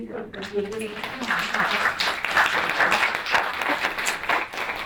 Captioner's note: audience applauding